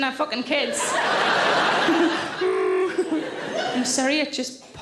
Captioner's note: Sarah grunts; audience laughing